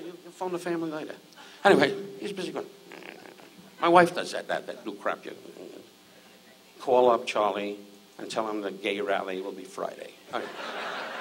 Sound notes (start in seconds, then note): 2.9 grumbles